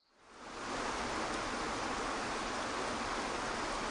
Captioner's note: water cascading